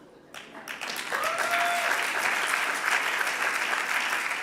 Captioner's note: audience applauding